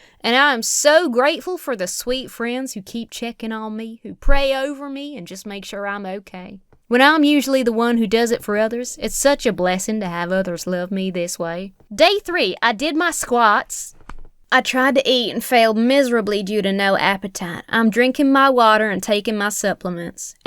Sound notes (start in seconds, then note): 14.0 hand thuds